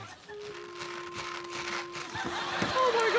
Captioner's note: rhythmic rattling